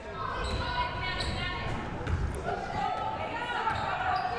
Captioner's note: crowd murmuring